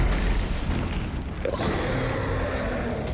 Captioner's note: roaring